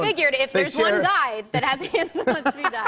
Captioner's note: laughter